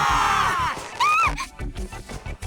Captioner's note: panicked gasp